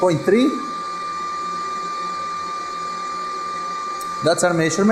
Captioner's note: pipes hum